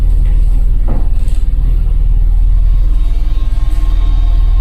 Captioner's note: wood tapping